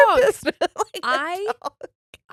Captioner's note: laughing